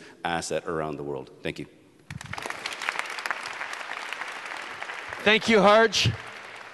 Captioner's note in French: Applaudissements